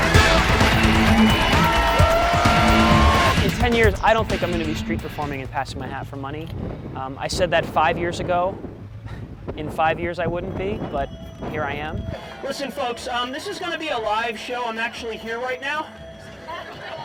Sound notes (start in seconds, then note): 0.0 audience cheering